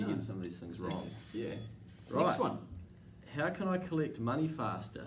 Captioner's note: timer dings